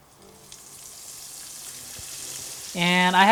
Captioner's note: oil sizzling